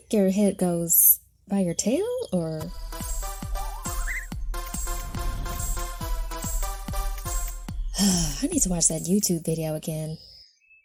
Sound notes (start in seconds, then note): 6.4 wind wooshing; 7.9 sighing